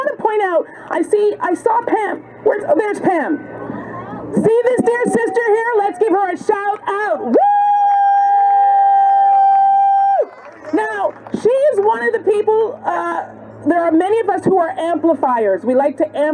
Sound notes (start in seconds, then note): 7.2 cheers and applause